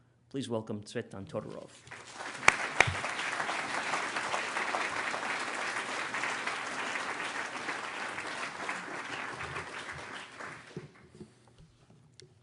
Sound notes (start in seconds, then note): 1.8 applause